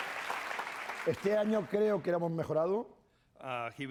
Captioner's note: speaking spanish